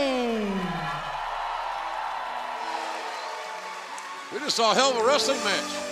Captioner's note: cheers and applause